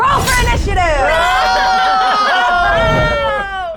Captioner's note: players laughing